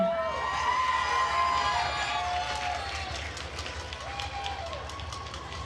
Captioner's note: attendees cheering and applauding